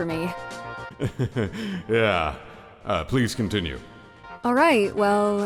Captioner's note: embarrassed laugh